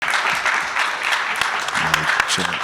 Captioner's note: audience clapping